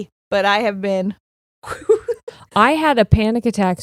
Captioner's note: blowing air; chuckling